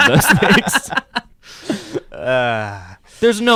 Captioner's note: laughing